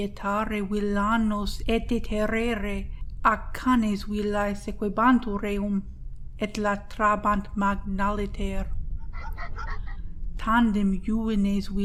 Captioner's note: dogs barking